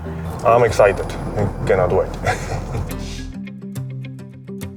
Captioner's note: laughs